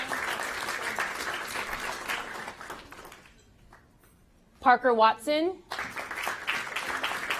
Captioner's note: applause